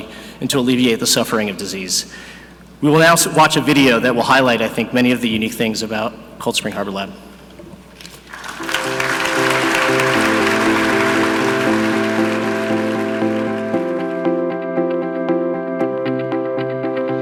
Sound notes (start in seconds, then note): 8.0 audience clapping; 8.4 upbeat music